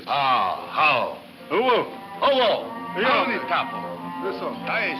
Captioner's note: speaks in foreign language